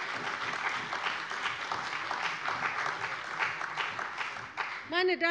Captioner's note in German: Beifall bei der CDU und dem BÜNDNIS 90/DIE GRÜNEN